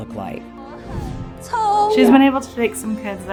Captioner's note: speaking in Mandarin